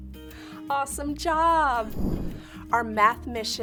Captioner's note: air whooshes